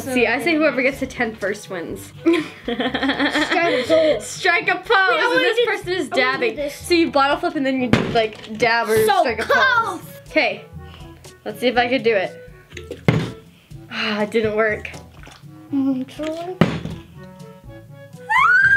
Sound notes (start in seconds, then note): 2.2 laughing; 12.7 bottle landing; 13.8 sighing; 16.5 bottle landing; 18.3 squealing